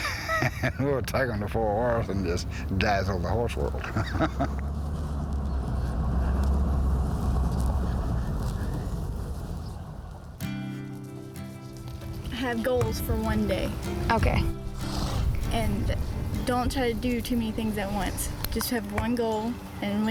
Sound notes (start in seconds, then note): 0.0 laughs; 3.8 chuckles